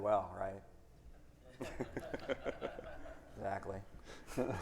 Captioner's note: everyone laughing